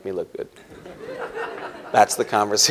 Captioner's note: laughter